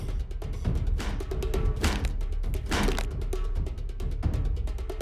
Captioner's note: head slams against wall